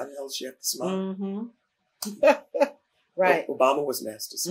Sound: laughs

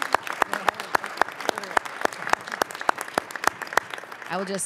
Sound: audience applauding

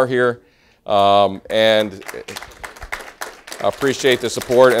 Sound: applause

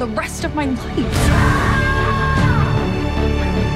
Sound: screams

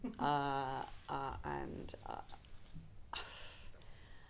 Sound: sighs

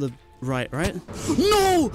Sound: gasp

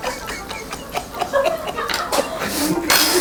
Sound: suppressing the laughter

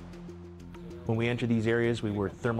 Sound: voiceover

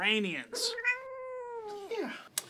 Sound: kitten meowing

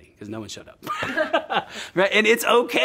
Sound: both laughing

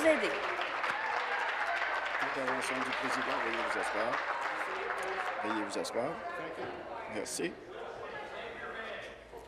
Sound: applause

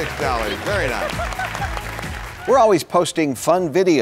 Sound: applause

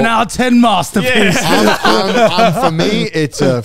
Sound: all laughing

